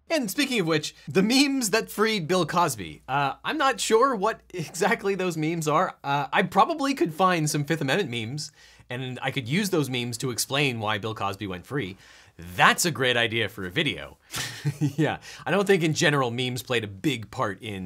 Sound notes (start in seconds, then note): 0.0 upbeat instrumental music; 14.3 chuckles